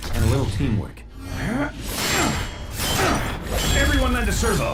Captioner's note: optimus grunting